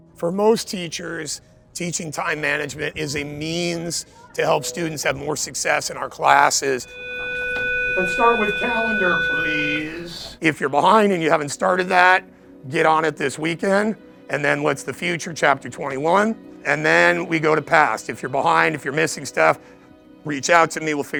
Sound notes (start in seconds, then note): 6.9 class bell ringing